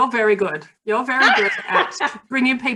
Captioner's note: laughing